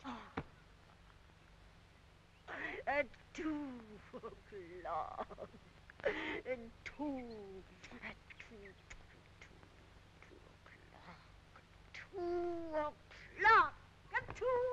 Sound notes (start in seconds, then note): 0.0 Rosalind sighs; 8.8 Rosalind kissing